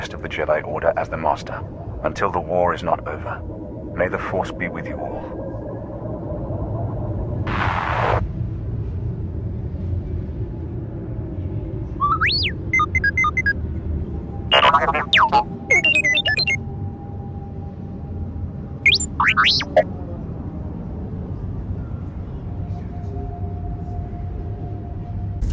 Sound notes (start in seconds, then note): 12.8 beeps